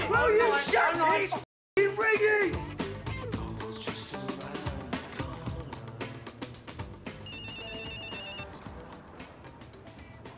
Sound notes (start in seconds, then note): 0.0 overlapping shouting; 7.2 phone ringing